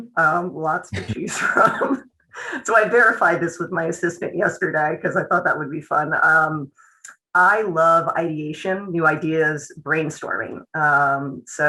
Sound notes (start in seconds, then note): 1.3 laughter